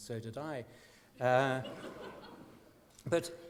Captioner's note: laughter